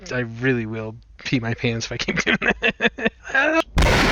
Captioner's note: laughs; blam